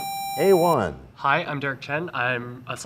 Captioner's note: sound of a buzzer